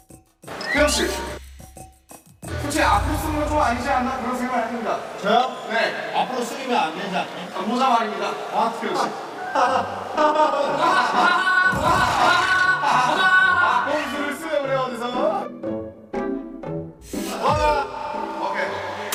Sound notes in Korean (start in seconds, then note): 11.8 하하하하